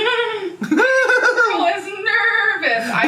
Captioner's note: giggles; mimics giggle